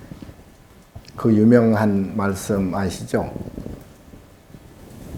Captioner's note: speaking Korean